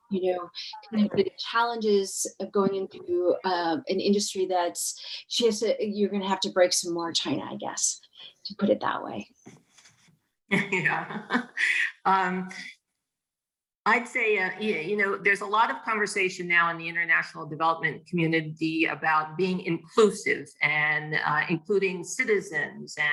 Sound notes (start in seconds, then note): 10.6 laughing